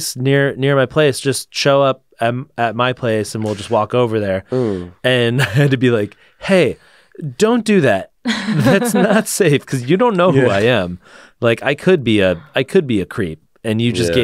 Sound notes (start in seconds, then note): 8.3 laughs